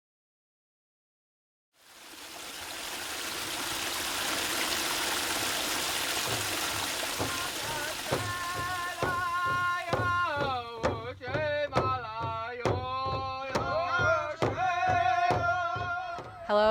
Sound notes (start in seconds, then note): 1.6 water sloshing; 6.4 upbeat percussion music; 7.5 singing; 13.5 singing